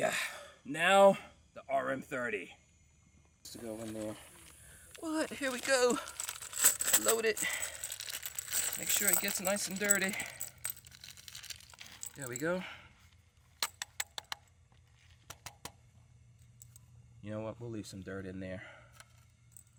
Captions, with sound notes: Yeah, now the Rm-30! Let's go, one more. Well let, here we go! Load it. Make sure it gets nice and dirty. (rustling) There we go. (tapping) You know what, we'll leave some dirt in there.